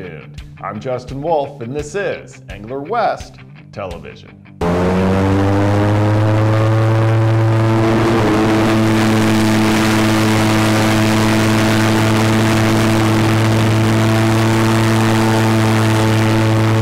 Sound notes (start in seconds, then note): 4.6 airboat fan roaring